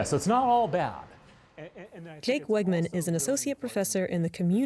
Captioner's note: voice-over